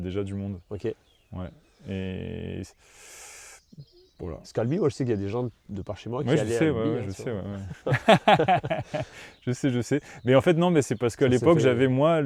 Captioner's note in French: rires